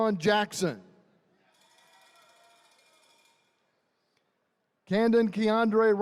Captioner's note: attendees cheering